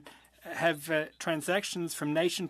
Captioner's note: speaking French